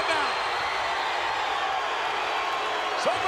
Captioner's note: crowd cheers